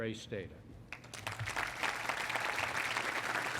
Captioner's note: applause